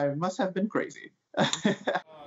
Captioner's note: laughter